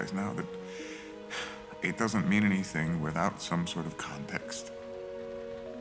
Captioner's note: sighs